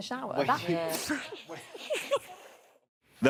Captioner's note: laughing